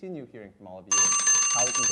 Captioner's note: alarm rings